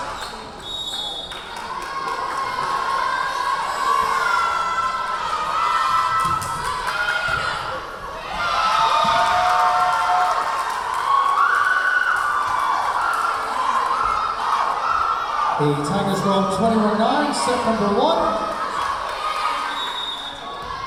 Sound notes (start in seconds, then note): 0.6 whistle blowing; 3.6 yelling; 9.4 cheering; 11.6 clapping; 19.6 whistle blowing; 20.6 yelling